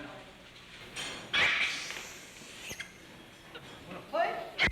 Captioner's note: monkey shrieking